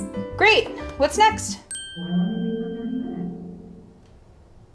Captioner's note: chiming